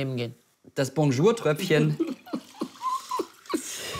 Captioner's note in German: lacht